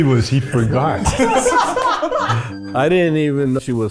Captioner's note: group laughs